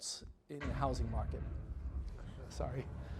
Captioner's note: crash